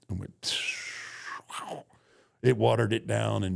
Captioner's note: whistling